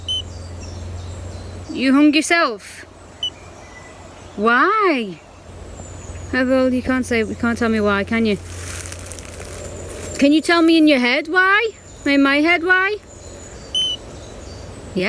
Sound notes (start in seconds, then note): 0.0 beep; 3.4 beep; 4.9 birds chirping; 8.8 leaves rustling; 13.6 birds chirping; 13.7 beep